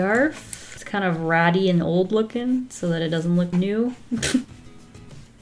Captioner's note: laughs